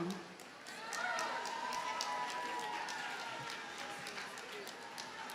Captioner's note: audience cheers and applauds